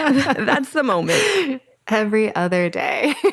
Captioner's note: both laugh